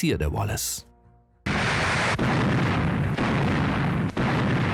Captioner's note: guns firing